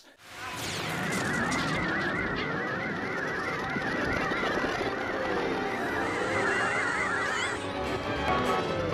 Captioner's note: weoweoweoweoweoweoweoweoweoweoweoweoweo